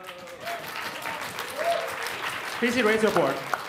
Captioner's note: applause